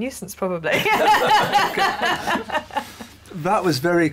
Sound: laughter

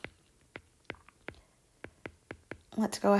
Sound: digital pen tapping noise

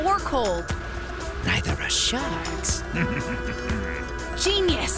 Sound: chuckling

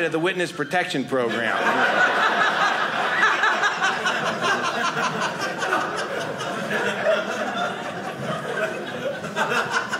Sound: audience laughing

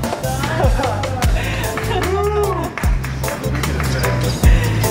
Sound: applause and cheering from onlookers

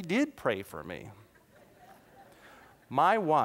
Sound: laughter

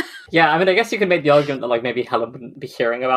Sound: laughs

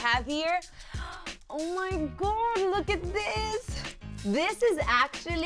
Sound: gasps

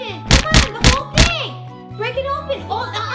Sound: whacking noises

